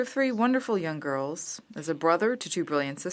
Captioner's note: speaking French